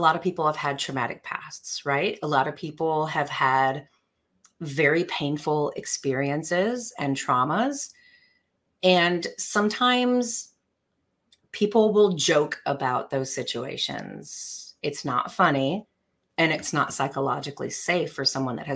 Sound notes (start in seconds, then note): none